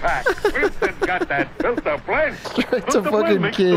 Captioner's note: laughs